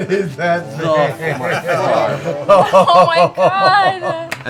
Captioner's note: laughing